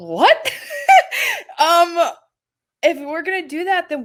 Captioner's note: laughing